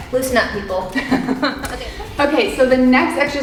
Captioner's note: giggling